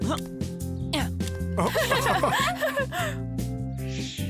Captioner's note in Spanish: risas